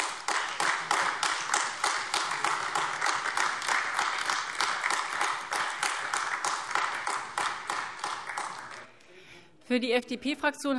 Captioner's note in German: Beifall AfD